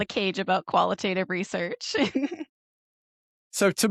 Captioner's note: laughs